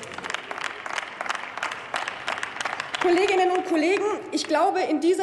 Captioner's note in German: Applaus